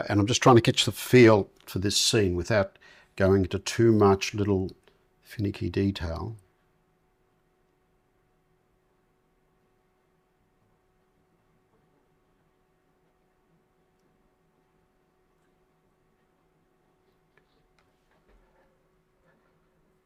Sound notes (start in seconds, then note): 8.3 silence